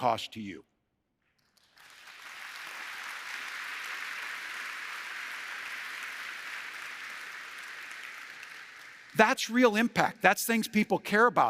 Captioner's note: applause